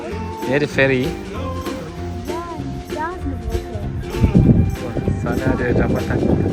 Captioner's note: speaking German